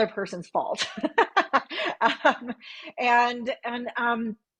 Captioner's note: laughs